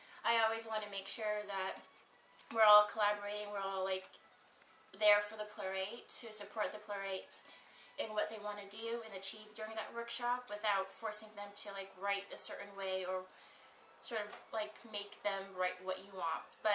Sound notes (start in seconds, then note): none